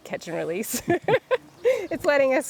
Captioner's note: laughing